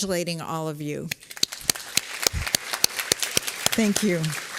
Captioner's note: applause